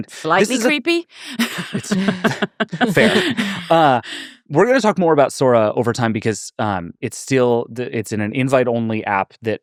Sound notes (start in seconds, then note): 1.2 laughing